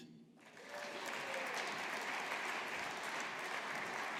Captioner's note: audience applauding